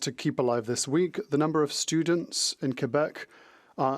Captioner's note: speaking French